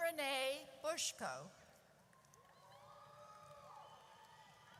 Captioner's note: audience cheers